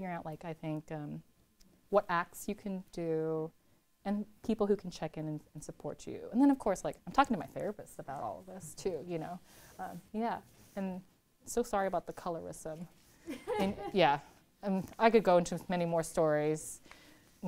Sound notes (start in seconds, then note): 13.3 laughs